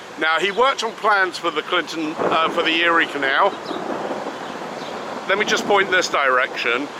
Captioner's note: thunder roars